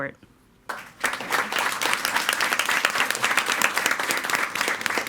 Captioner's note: all applauding